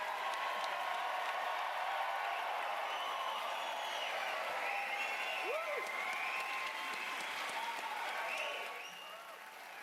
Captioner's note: cheers and applause